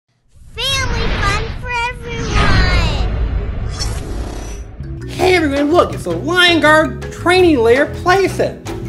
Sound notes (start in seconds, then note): 0.9 voiceover; 5.9 voiceover